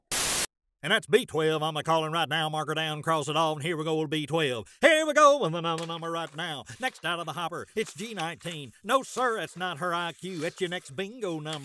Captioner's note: auctioneer calling a game of Bingo in the background